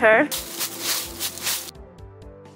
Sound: leaf crunch

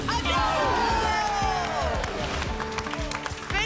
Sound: applause and cheering

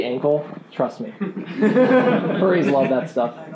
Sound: laughing

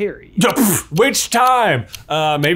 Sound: blows raspberry

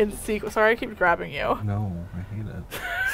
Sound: dryly; laugh

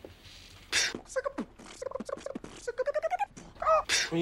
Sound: beatbox of remembering; beatbox of seagull

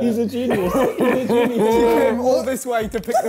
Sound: laughing

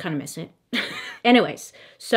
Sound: laughs

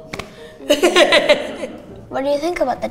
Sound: laughing

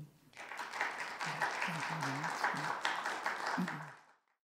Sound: audience applauding

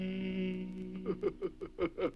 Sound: Dunderklumpen laughs

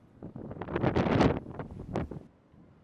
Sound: wind blows

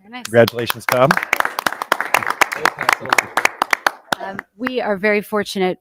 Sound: audience applauding

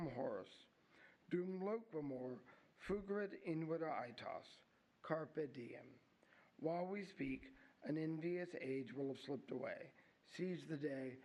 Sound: �speaking latin�

